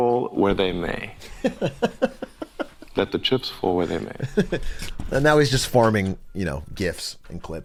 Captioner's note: laughs